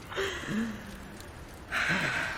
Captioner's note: both sigh